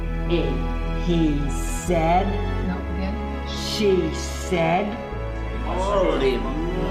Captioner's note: person reading